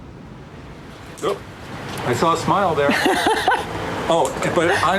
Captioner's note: laughing